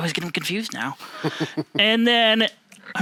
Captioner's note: chuckles